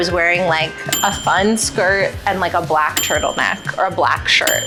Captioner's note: bell dinging